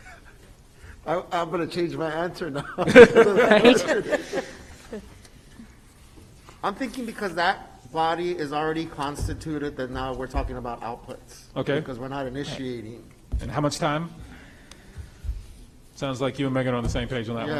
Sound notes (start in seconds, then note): 0.0 laughs; 2.8 attendees laugh